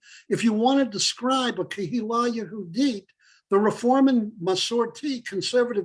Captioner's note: Hebrew